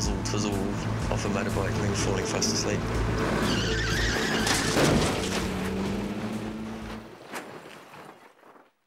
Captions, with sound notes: testing nozzle tizzle off a motorbike and then falling fast asleep. (tires screech)